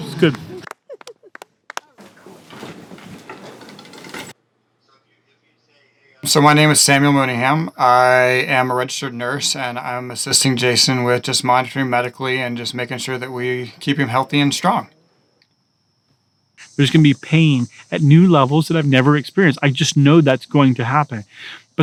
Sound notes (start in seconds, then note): 0.0 laughing; 5.4 people chattering